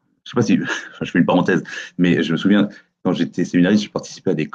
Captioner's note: faint laugh